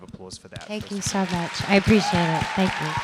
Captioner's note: applause